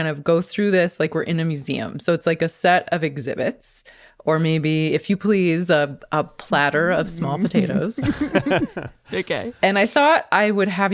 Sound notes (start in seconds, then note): 7.2 laughs